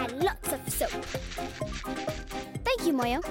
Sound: grating

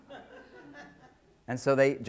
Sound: scattered laughter

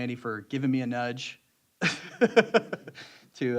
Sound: laughter

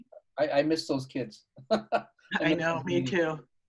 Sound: laughs

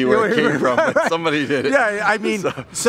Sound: laughs

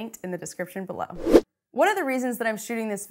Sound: air rushes

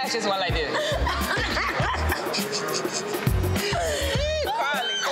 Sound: both laughing

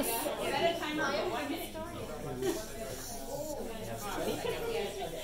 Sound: papers & people shuffling, audience murmuring

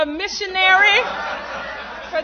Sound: laughter

